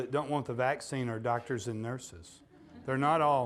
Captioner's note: audience laughing